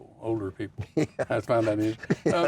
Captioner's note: laughs